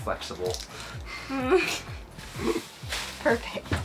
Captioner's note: laughs softly